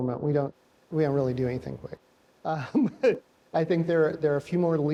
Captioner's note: laughs